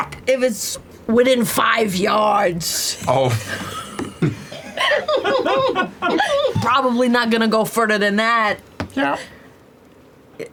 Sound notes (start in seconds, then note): 4.8 laughter